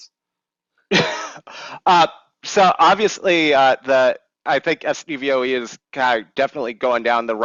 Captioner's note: chuckles